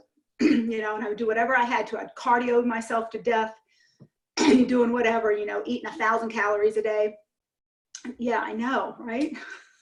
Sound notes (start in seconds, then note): 0.1 clears throat; 4.2 clears throat